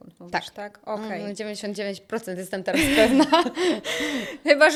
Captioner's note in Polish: śmiech